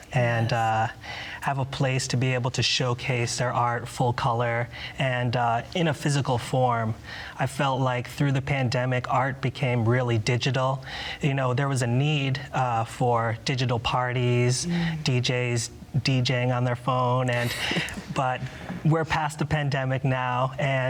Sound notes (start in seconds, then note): 17.4 laughs